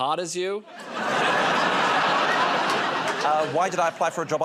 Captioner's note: laughter